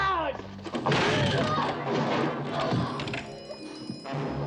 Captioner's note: all grunting